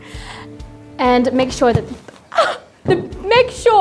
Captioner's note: thump; gasps